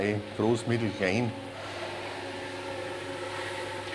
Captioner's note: machine whirring